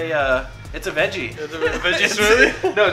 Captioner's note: laughs